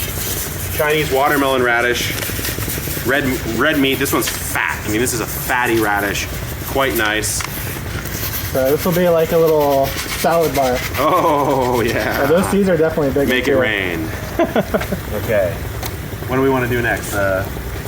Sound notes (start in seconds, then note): 7.6 seeds shuffling; 14.0 laughing